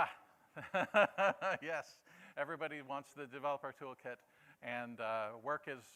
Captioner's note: laughter